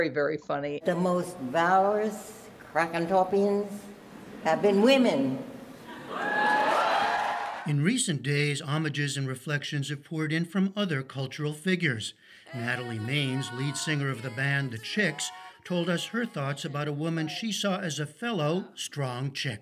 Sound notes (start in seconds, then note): 5.9 cheering and applause